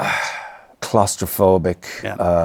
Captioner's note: sighs